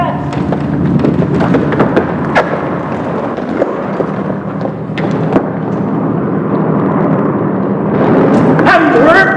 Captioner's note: large WWII aircraft sounds